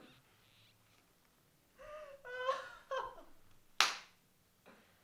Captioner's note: laughs